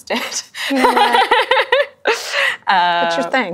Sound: laughs

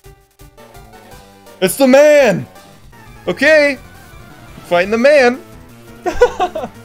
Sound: laughs

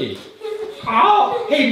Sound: laughter

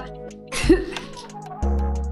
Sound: laughs

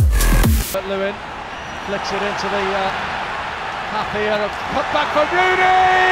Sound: football crowd cheers; goal is scored

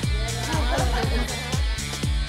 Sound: everyone laughs

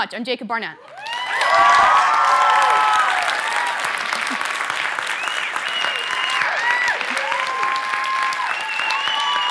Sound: applause; cheers

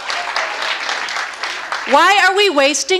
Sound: audience applauds

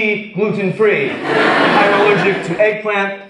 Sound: audience laughs

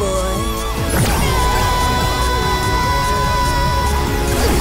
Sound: screaming

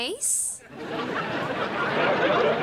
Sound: laughing

